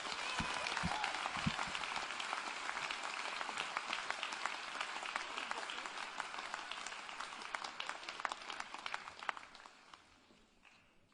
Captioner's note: applause